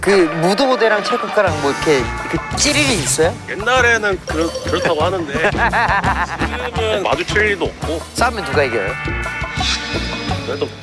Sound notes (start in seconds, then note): 4.3 stutter